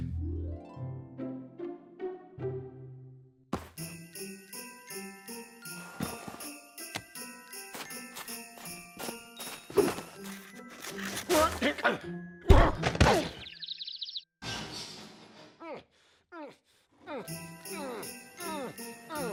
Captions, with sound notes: WHOA! EH-AAH! (grunts) WHOA! EH-AAH! (objects clatter) NNH! NNH! NNH! NNH!